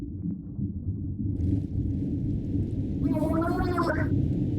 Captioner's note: some turbulence slowly rocking the probe